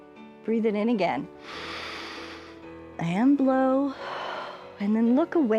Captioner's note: inhales; exhales